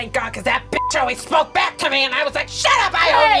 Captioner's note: beep